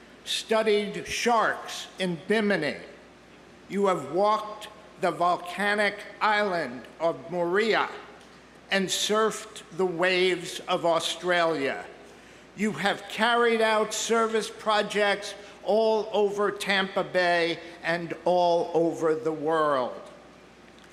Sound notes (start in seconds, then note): none